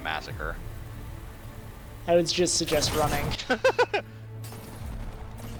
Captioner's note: laughs